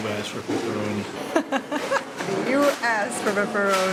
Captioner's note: laughs